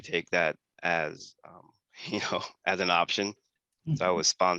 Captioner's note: laugh